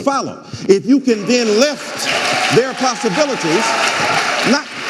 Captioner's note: audience applauding and cheering